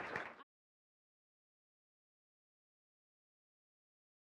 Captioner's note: applause; silence